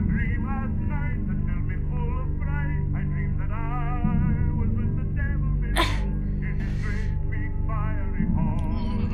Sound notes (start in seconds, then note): 5.7 Riley grunting